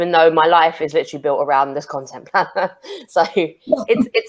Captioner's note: chuckles